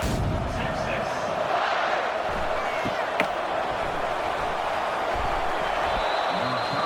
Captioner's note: crowd Noises